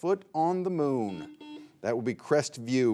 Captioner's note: buzzer buzzing